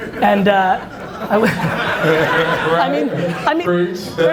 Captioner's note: audience laughs